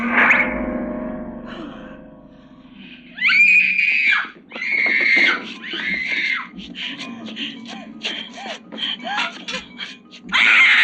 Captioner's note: screaming